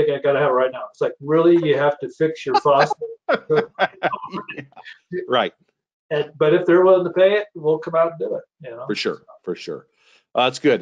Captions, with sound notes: I gotta have it right now. It's like, really? (laughs) You have to fix your faucet right now? - Right. - But if they're willing to pay it, then we'll come out and do it, you know. - For sure, for sure.